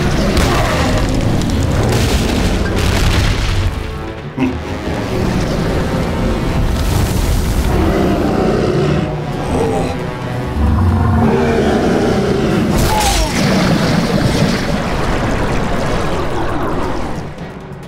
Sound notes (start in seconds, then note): 0.0 roars; 4.2 chuckles; 7.6 roars